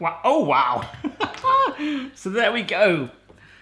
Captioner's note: laughing